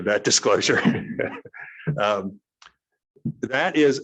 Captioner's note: laughs